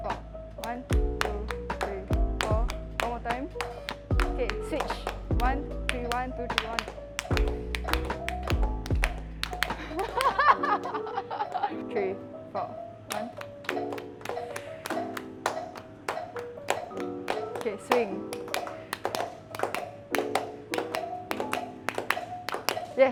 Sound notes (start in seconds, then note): 0.6 claps and counts; 9.7 laughs; 13.1 claps